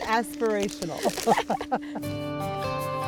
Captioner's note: laughs; inspiring music